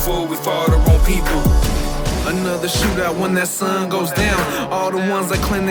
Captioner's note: gun Shots